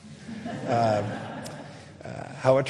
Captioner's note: audience laughing